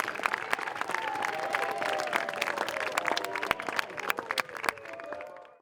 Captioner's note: applause